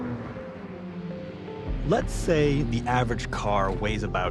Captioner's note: car engine whirring